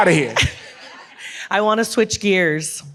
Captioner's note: audience laughs